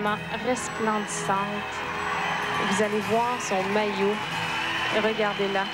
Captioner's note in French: acclamations